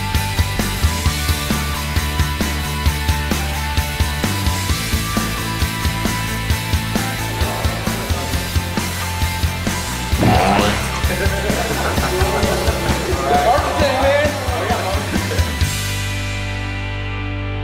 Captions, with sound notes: [boing] [laughter] Archery Tag, man!